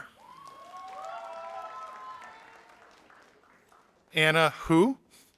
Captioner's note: audience applauding